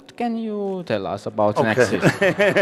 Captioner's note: laughs and claps hands